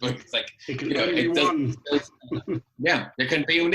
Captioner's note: laughs